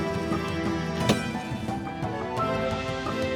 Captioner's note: arrow impacts